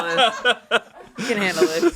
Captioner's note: everyone laughs